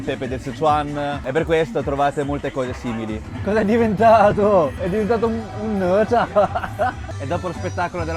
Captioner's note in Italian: risate